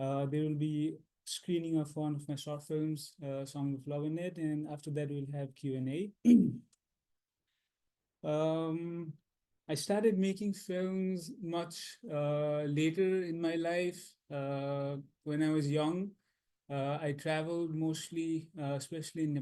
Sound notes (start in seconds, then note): 6.2 clears throat